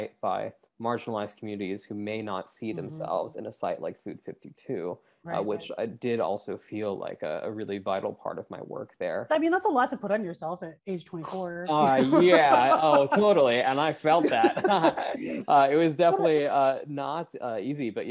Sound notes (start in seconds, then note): 11.2 laughs